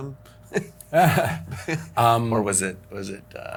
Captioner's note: laughs